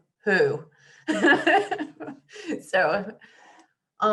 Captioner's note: laughs